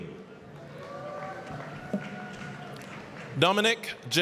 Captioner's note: applause, cheering